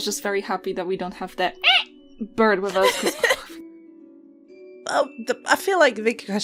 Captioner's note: parrot noise; laughter